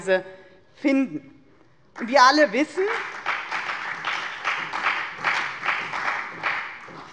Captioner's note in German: Beifall bei der FDP und der CDU sowie bei Abgeordneten der SPD